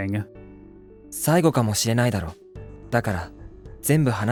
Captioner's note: speaking in Japanese